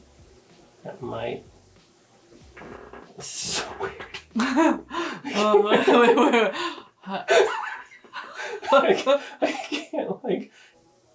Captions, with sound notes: That might, this is so weird. (laughs) (both laughing)